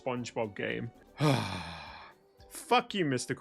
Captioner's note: happy sigh